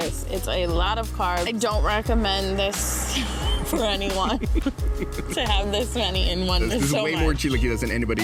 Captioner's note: laughs